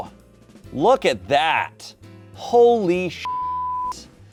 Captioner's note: beep